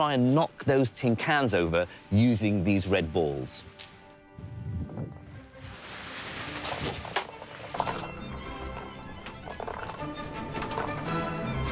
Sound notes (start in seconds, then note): 6.0 lively orchestral music; 7.0 balls clatter